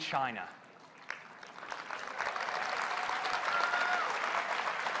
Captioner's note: applause